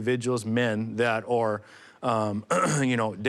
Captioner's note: clears throat